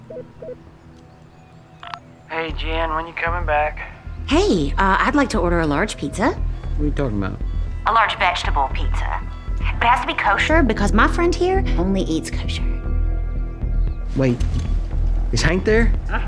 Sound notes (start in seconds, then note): 0.0 beeping; 1.8 on phone